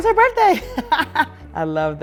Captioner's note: Sanya chuckling